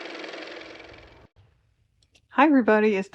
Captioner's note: car motor